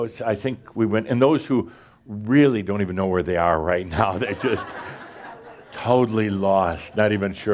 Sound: laughter

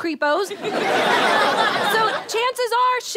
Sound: audience laughter

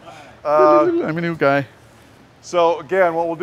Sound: voiceover

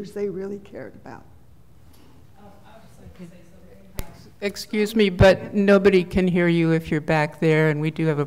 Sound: speaking off the mic

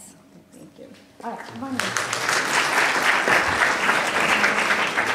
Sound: applause

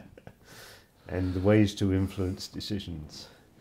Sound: laughs

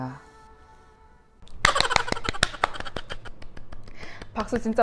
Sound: clap clap clap clap!!

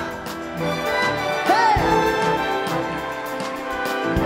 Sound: applause and cheering; orchestral break

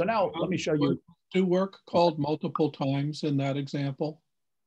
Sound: bold Voice

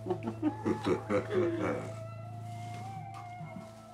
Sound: laughing

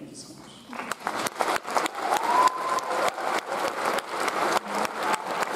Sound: audience applauds

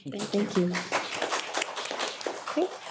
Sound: audience applause

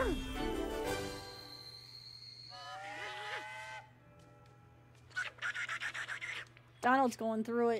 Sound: Train Whistle, Choo-Choos, and Donald Yelling

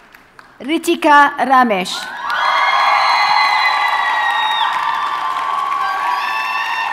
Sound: audience cheers and applauds

